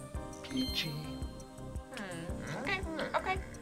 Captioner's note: word twinkles